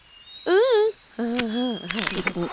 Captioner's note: Eve mumbles dismissively; woman and sheep munch